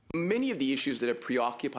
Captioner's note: speaking French